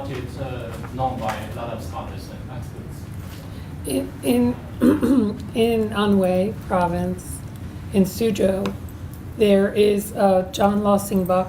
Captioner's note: clearing throat